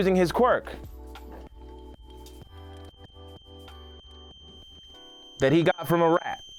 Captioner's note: high pitched whistle